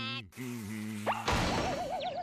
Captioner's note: humming